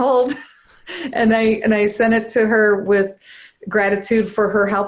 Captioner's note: laughs